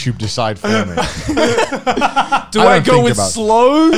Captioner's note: laughing